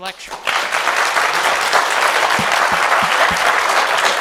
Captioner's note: applause